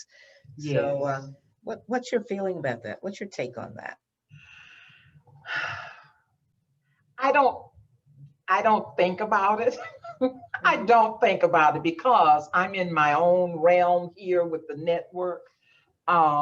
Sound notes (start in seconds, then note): 4.3 breathes deeply; 9.7 laughs